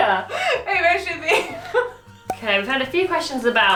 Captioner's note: laughs